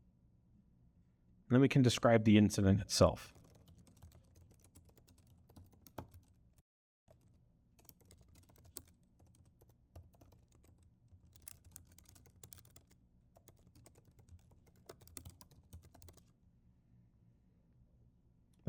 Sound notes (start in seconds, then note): 7.8 sound of typing